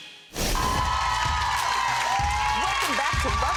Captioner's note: audience applauding